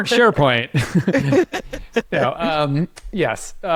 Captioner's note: both laughing